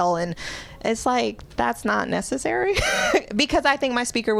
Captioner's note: laughter